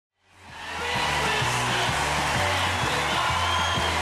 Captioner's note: crowd applauds